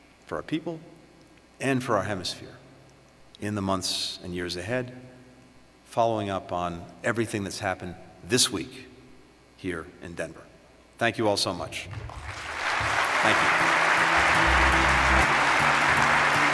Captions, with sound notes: for our people, and for our hemisphere, in the months and years ahead, following up on everything that’s happened this week here in Denver. Thank you all so much. (Applause.)